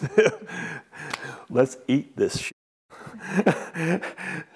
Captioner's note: laughs